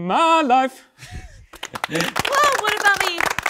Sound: chuckling; participants applauding

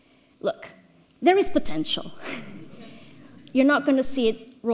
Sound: audience laughs

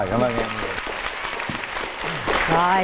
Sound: clapping hands

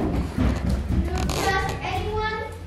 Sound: none

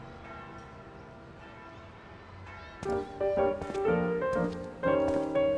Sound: church bells ring; lighthearted music

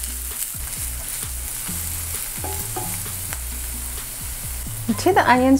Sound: sizzling sound

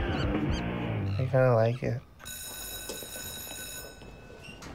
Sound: school Bell Rings

